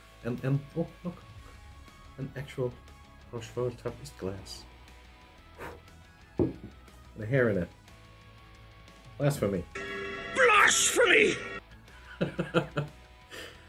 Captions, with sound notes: And, and! Oh! Look! An actual Rochefort Trappist glass. With a hair in it! Blasphemy! "Blasphemy!" *laughs*